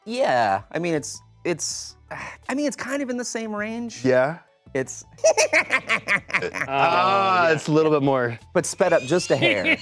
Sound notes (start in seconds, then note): 5.2 high pitched laughing